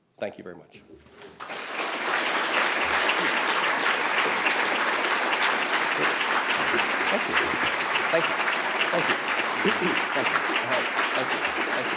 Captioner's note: applause